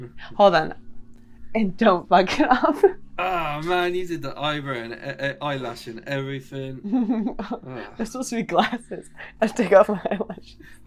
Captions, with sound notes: Hold on. And don't fuck it up. [laughs] -Oh man, you did the eyelash and everything. -[laughs] It was supposed to be glasses. I took off my eyelashes.